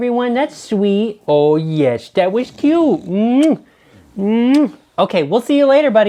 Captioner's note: smooches